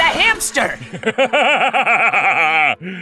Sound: Howie laughs

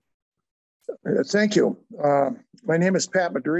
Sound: pat

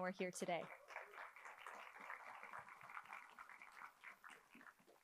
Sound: attendees applauding

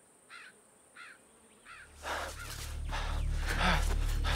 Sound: bird cawing; panting

